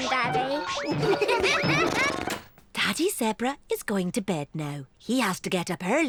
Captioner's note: all giggle